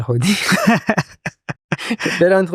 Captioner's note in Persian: خنده